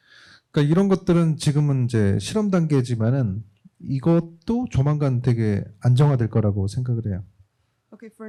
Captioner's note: speaking korean